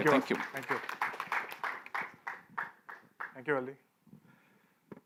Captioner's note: applause